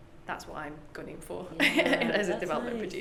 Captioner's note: laughs